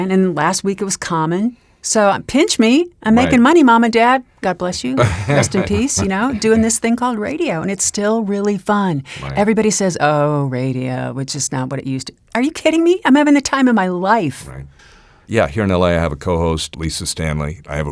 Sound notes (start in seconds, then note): 4.8 laughs